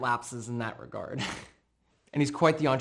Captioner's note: chuckling